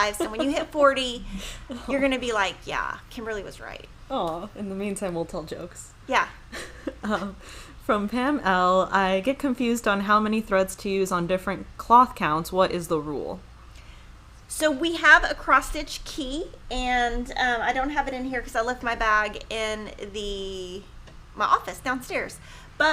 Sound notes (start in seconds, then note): 6.5 laughing